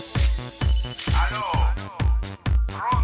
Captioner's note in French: sonnerie